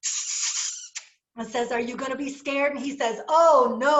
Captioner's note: kiss